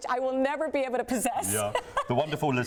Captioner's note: laughs